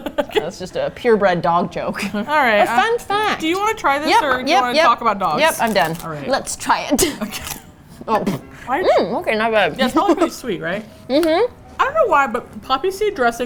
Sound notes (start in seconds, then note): 0.0 laughs; 7.1 laughs; 7.3 aggressive crunch